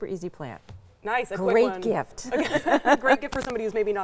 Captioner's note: laughs